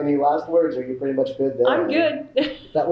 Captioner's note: laughs